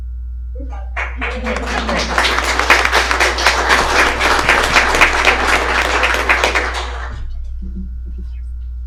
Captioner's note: applause